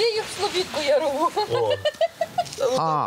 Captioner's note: laughs